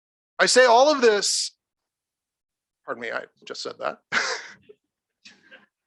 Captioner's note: chuckles